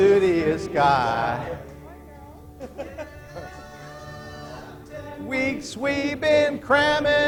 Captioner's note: laughter